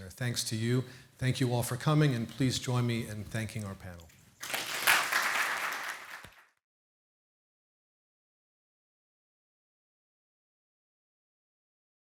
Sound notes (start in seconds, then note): 4.4 audience applauds